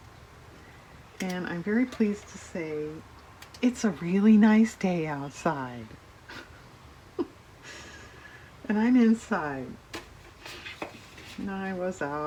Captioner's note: laughs